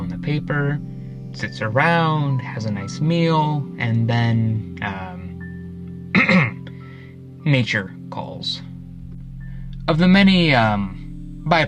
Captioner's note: clear throat